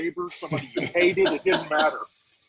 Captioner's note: laughing